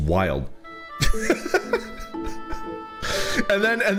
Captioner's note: laughs